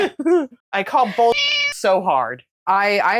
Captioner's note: meow